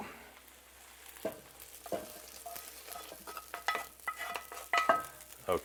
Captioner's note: pan sizzling softly